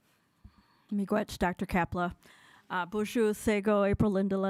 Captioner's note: speaking foreign language